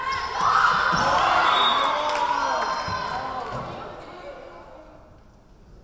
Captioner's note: whistle blowing